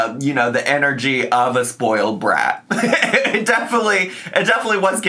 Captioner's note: laughs